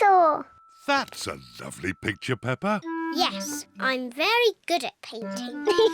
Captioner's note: giggles